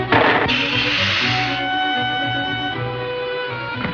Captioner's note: gunshot booms